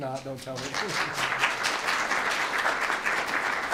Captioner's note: applause